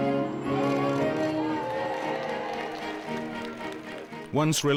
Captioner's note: crowd cheering